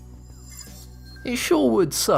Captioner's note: futuristic ringing